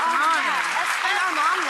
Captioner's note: clapping